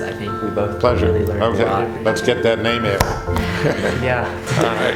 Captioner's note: laughing